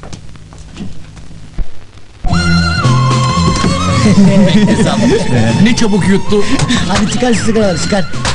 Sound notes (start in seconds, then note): 2.2 upbeat, original movie music starts in the background; 3.8 laughing